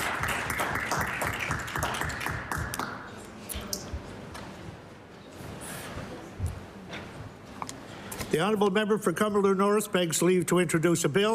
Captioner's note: applause